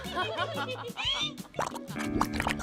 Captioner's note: contestants giggling; mud bubbling